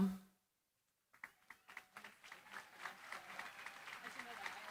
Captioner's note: applause